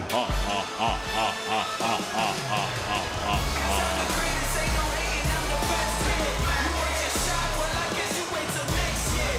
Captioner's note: chuckles